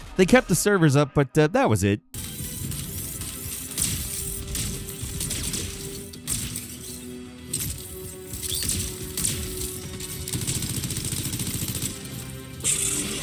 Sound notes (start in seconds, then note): 2.2 inspirational music; 2.3 lasers firing; 9.1 guns firing